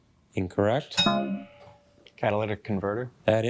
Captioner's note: bell dings